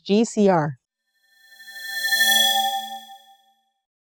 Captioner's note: swoosh